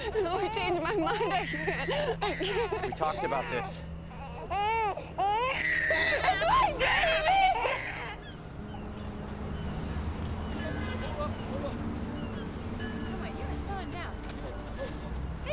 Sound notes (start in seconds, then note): 4.0 baby crying and screaming